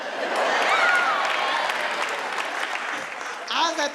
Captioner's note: audience laughs; audience applauds